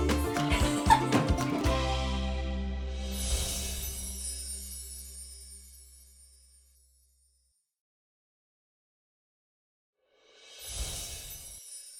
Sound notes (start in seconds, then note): 0.0 laughing; 3.0 chimes ringing